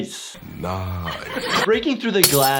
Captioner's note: laughing